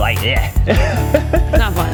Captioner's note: laughs